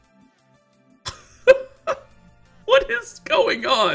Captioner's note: laughs